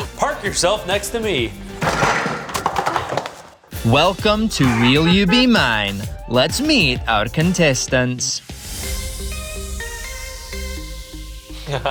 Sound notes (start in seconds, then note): 1.6 items rattling; 9.0 bright rhythmic music; 11.6 laughing